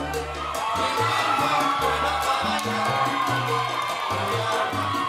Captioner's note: audience cheering